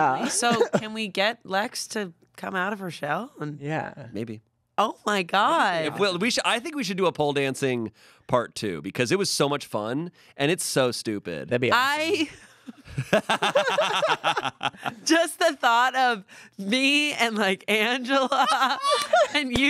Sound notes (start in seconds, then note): 12.8 laughs; 12.8 everyone laughs